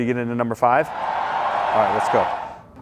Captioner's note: audience cheers